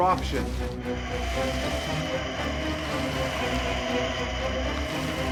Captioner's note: creature growling